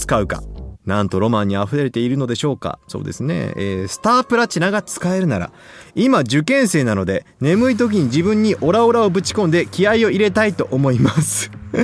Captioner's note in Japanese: 笑い